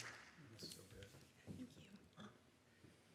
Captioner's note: whispers